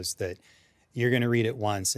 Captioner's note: none